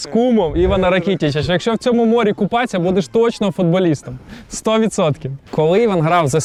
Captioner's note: laughs